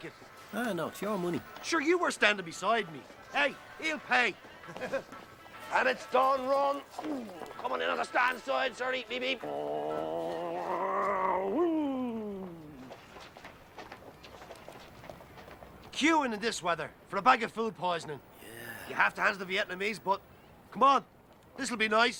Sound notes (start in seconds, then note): 4.6 Risas